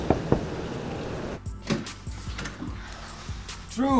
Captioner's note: knocking on door; door rattling